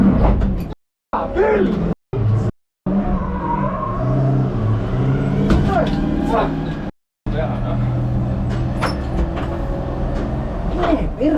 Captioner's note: angry driver noises